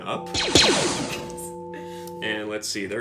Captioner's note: blaster noises